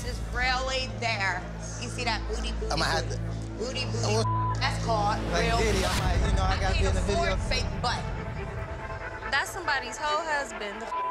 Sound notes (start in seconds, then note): 4.1 beep; 10.8 beep